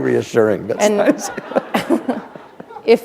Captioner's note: laughter